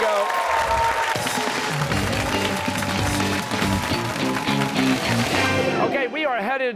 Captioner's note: cheers and applause